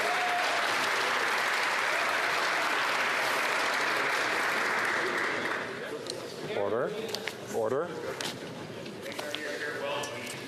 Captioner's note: some Applause